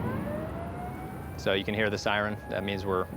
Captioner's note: explosion; siren blaring